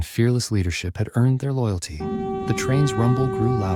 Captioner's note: train whistle blowing